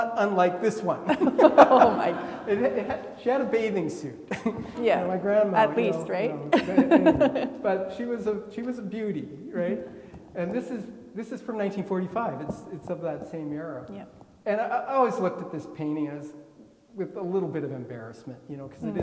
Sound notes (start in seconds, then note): 1.9 attendees laughing; 6.5 laughing